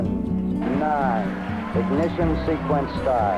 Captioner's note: cheering